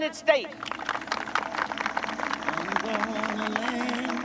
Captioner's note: audience applauding